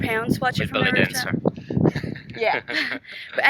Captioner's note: laughing